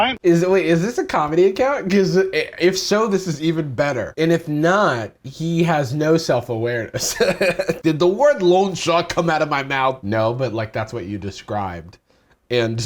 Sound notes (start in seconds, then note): 7.0 laughs